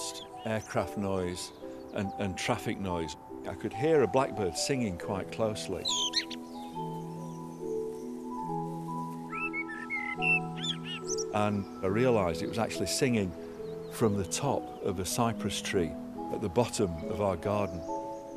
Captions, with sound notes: we lost aircraft noise and traffic noise. I could hear a blackbird singing quite closely. (chirping) (birds singing) And I realized it was actually singing from the top of a cypress tree at the bottom of our garden.